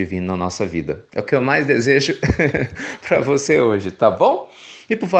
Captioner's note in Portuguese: Risos